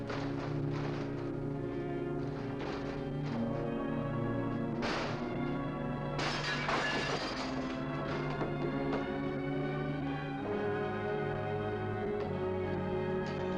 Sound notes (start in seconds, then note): 6.1 glass shatters; 8.7 mysterious music